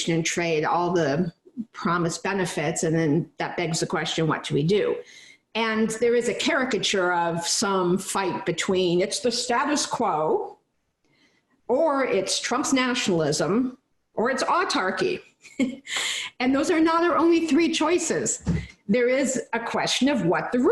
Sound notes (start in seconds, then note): 15.4 giggling